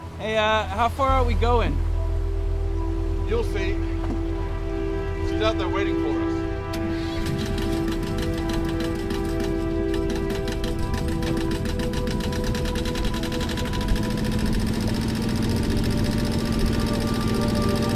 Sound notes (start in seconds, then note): 7.7 boat engine idling; 10.8 soft celestial music continues; 14.2 boat engine whirring